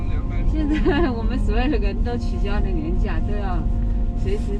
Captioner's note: helpless laugh